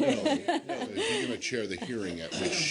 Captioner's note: laughter